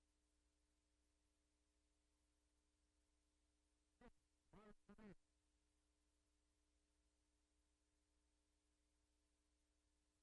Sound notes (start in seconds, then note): none